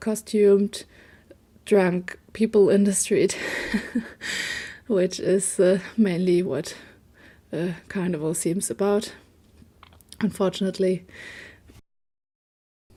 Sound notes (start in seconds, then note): 3.6 laugh